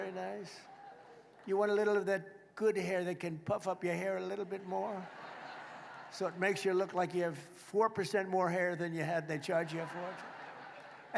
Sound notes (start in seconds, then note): 6.0 laughter